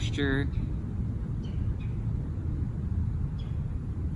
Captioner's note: birds and other animals chirping excitedly